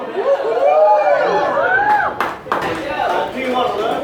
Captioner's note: cheers